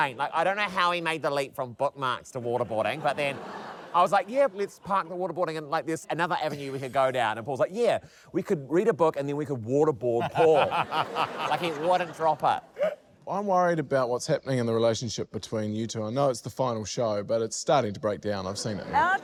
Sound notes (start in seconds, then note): 10.2 chuckles